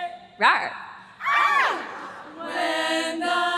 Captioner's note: choir screams